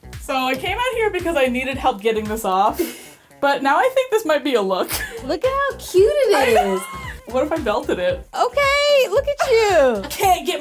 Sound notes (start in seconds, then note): 6.3 chuckles